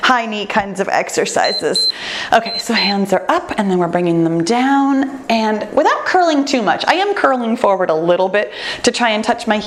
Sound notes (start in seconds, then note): 1.4 timer beeps